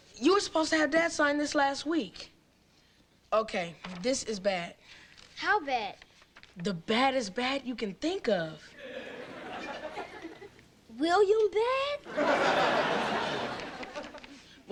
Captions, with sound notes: You were supposed to have dad sign this last week. Okay, this is bad. - How bad? - The baddest bad you can think of. (audience lightly laughing) - William, bad? (audience laughing)